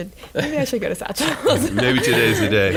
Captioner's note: laughing